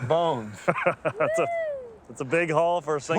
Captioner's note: laughing